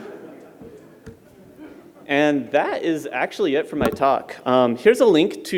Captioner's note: laughter